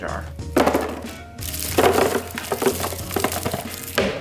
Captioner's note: food thumping